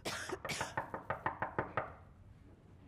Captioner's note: knocking